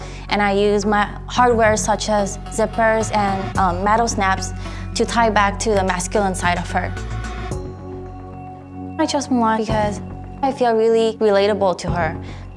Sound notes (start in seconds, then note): none